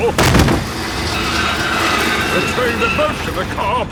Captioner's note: thud